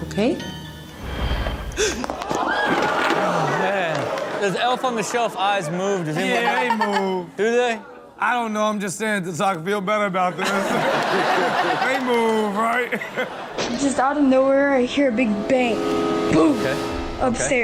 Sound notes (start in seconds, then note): 1.7 person gasps; 2.1 audience screams; 6.2 Chanel laughs; 10.3 everyone laughs